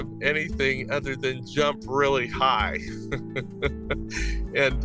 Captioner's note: laughs